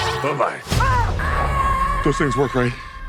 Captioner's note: screaming